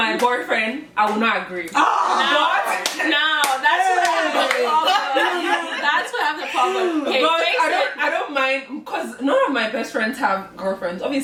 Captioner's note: screams and chatter